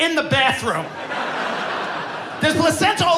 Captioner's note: audience laughing